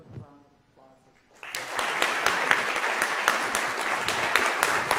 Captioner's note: audience applauding